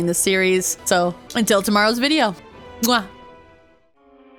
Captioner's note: kiss